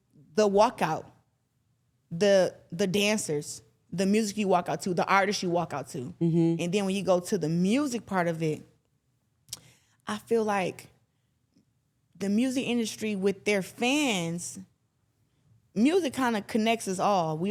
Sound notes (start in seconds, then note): none